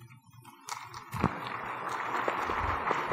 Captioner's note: applause